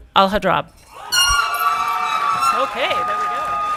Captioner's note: audience clapping and cheering